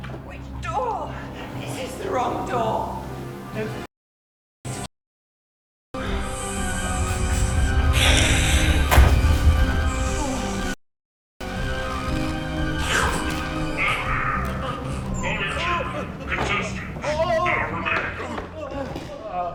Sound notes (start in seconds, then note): 6.0 dramatic music; 7.9 snake hissing; 8.7 dramatic music; 9.7 snake hissing; 11.4 dramatic music